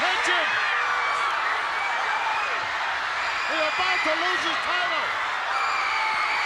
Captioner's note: applause